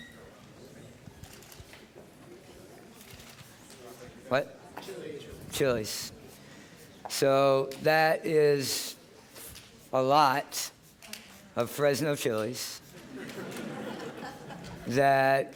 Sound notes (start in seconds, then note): 12.9 laughter